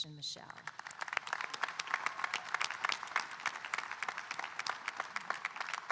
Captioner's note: audience applauding and cheering